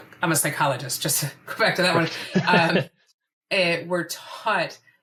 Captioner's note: laughs